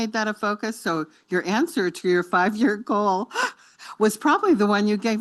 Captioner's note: chuckles